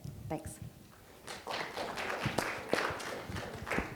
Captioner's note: applause